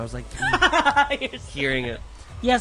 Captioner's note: laughs